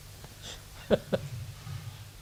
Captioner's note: laughs